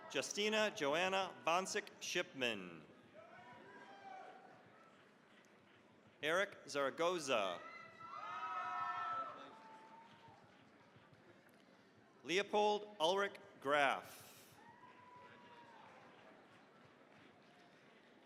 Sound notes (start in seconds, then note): 0.0 cheering, applause; 3.1 cheering, applause; 7.5 cheering, applause; 14.5 cheering, applause